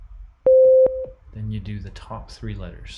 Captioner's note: high tone beeps